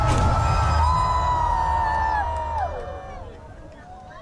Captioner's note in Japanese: 叫び声